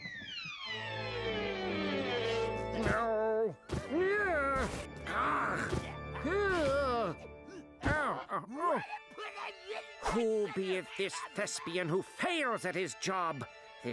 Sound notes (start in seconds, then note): 5.0 grunting